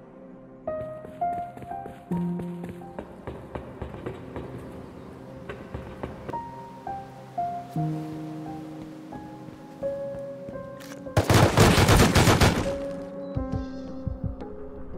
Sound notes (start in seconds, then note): 0.8 cow footsteps; 3.0 cow footsteps on metal; 11.2 gun shots